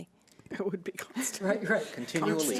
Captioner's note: chuckles